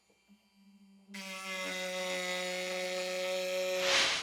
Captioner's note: sawing